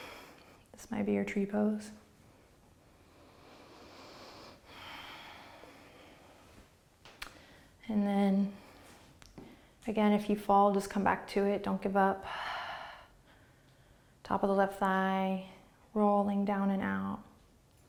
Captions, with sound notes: This might be your Tree Pose. (deep breathing) And then, again if you fall, just come back to it. Don't give up. (exhaling) Top of the left thigh, rolling down and out.